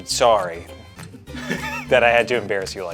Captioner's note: laughing